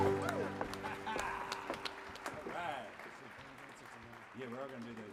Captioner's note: audience applauds